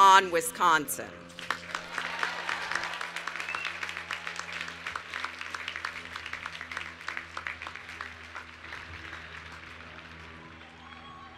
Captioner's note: cheering and Applause